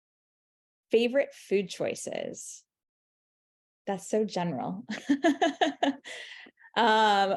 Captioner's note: laughing